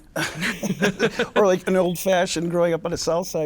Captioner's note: laughs